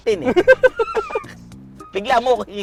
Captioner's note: both laughing